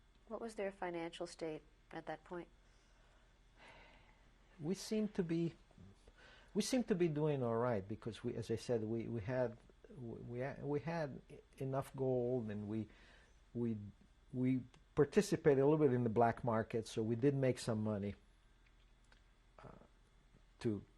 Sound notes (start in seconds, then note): 3.4 sighs; 19.0 pauses for 3 seconds